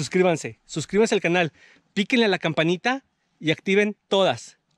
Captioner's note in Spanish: none